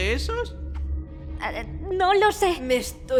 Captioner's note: stammers